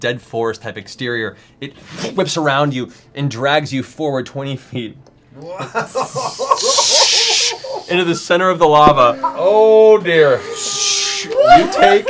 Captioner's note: giggling